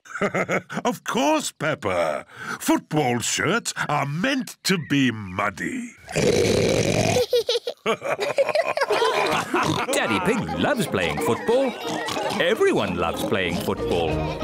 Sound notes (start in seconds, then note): 0.0 laughs; 5.7 oinks loudly; 7.1 both laugh